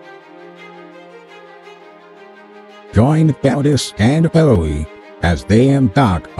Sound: voiceover

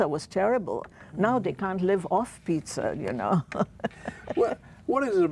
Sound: laughs

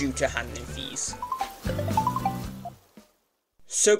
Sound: Nook Phone Ringing

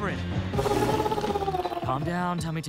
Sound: growling

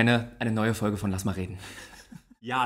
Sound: laughs

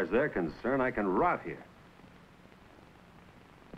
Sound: none

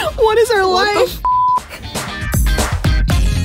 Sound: beep; upbeat music

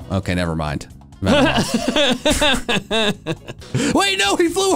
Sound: laugh

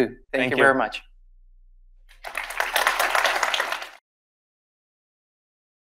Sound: audience applauding

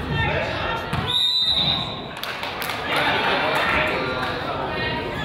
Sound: whistle blows

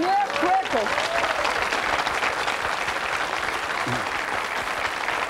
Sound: audience applauding

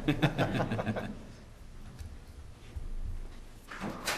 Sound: laughter

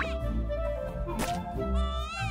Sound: Harris spits; Harris cries

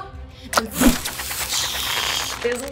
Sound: spider webs shooting

